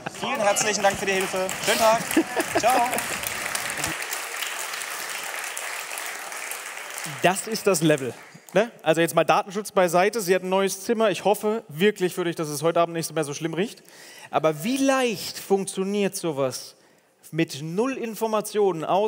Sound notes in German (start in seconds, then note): 3.3 Applaus